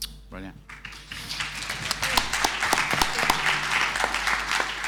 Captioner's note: audience applauding